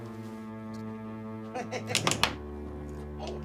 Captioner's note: johnny laughs